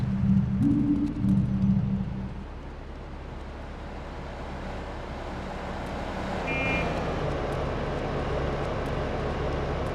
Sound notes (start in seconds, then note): 1.6 car honking